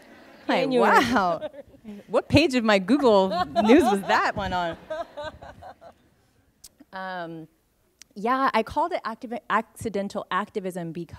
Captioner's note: laughter; laughter